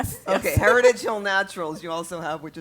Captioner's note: laugh